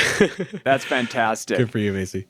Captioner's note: laughs